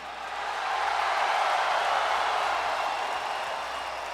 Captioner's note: crowd cheering